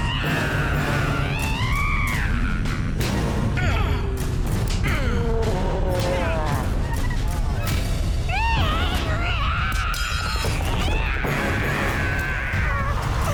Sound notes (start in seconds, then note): 0.1 zombies snarling; 4.1 dramatic music; 4.1 zombies snarling